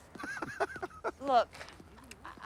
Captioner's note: both laugh